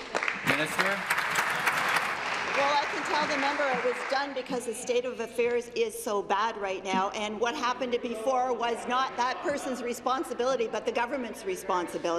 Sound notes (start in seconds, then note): 2.1 applause